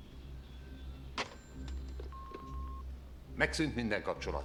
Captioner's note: hangs up phone